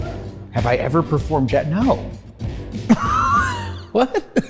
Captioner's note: laughs